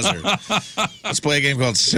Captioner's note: laughing